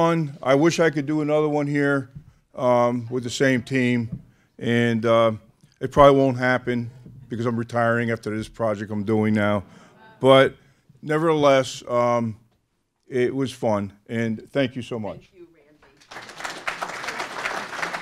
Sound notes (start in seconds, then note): 15.9 applause